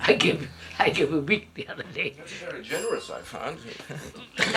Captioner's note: laughs